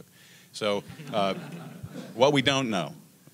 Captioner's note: laughter